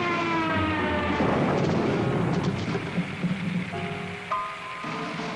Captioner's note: airplane screams; explosion blasts